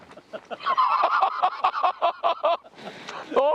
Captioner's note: can't help but burst into laughter